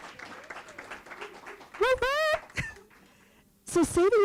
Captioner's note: applause